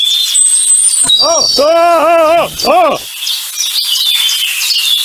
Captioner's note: Tank yelling